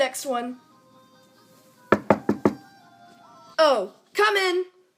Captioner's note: door knock